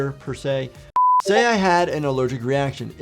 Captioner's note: beeps